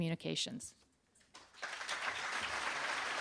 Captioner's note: applause